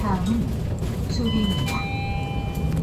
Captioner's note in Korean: 하차벨 소리